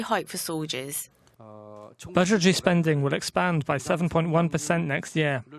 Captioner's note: Korean